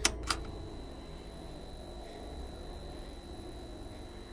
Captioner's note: button clicks; screen humming